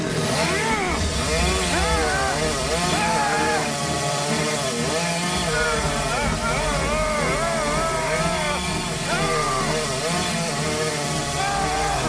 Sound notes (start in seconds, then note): 0.4 Jack grunting with exertion; 1.1 chainsaw cutting tree